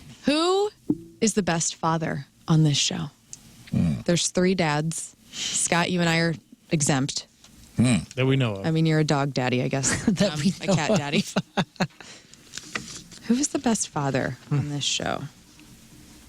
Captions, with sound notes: Who is the best father on this show? There's three dads. Scott, you and I are exempt. That we know of. I mean, you're a dog daddy, I guess. That we know of. (Laughing) Who is the best father on this show?